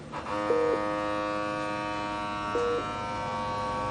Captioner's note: blood pressure cuff buzzing